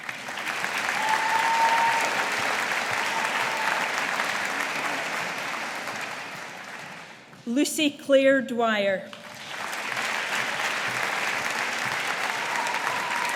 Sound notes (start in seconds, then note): 0.0 audience applauding; 9.1 audience applauding